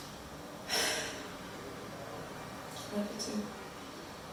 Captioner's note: Leona sighs